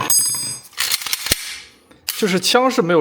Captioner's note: gun disassembly sound